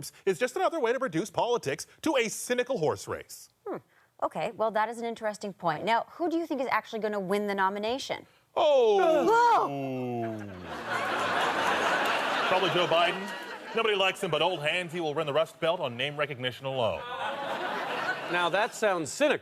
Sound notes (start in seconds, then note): 9.5 Miguel and Emma gasps; 10.3 audience laughter